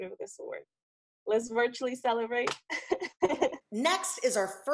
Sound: laughs

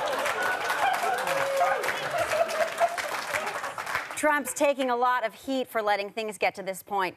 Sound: sparse applause; audience exclaiming

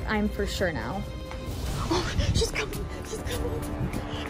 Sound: gasp

